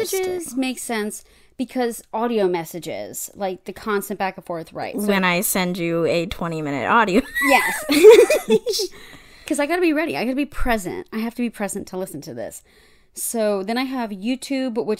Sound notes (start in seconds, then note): 7.4 wheeze laughs; 9.0 laughs